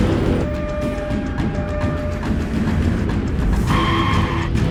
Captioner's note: sirens blaring; tires screeching